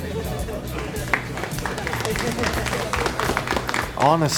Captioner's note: clapping